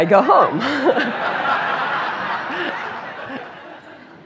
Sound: laughter

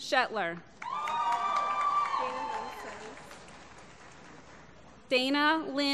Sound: applause

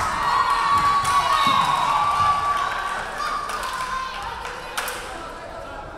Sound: crowd cheering; referee whistling

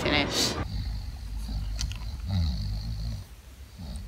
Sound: snoring

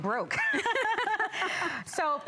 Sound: laughter

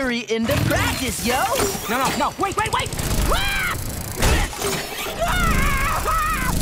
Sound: screaming

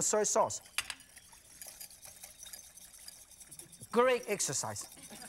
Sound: swishing

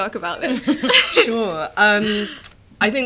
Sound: laughter

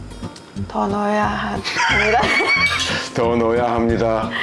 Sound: laughing

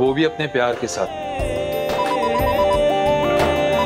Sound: mobile ringing

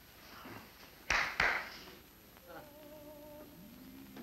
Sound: two hand claps

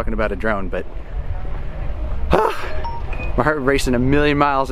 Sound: sighs

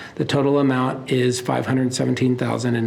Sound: none

